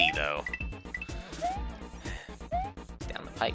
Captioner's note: breathing